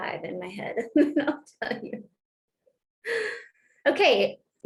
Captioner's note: laughter